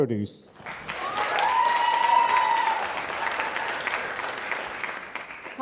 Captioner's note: audience cheering and applauding